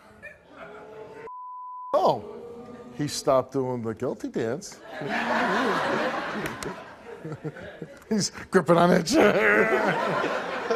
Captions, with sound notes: Oh, he stopped doing the guilty dance. (audience laughs) He's gripping on that chair.